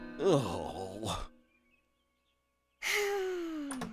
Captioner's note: papa grunting